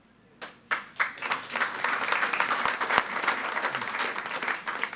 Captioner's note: all applauding